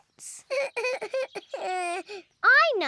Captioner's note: sobs